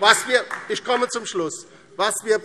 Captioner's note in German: Beifall DIE LINKE